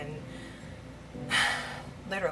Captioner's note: sighs